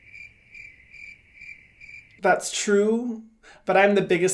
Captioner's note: crickets chirping